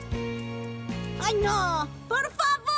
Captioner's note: spluttering